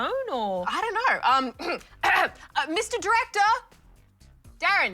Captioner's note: clears throat